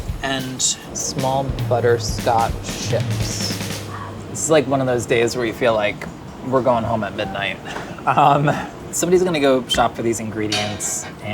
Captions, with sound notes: And small butterscotch chips. This is like one of those days where you feel like we're going home at midnight. [laughing] Somebody's gonna go shop for these ingredients